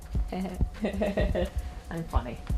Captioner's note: chuckling